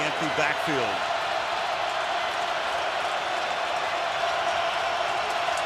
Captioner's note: crowd cheering